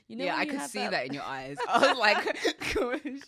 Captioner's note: both laughing